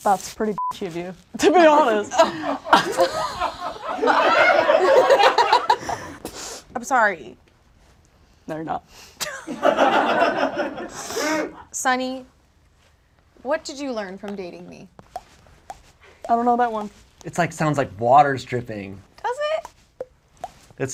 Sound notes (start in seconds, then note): 0.5 beep; 2.1 audience laughs; 9.4 audience laughs; 16.2 water dripping